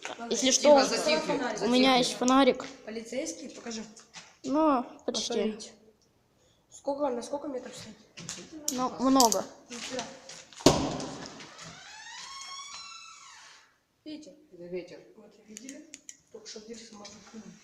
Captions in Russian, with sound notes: если что у меня есть фонарик Полицейский покажи, нуу почти на сколько метров светит? нуу на много *Скрип Дверей* Ветер это ветер